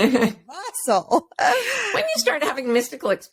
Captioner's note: laughs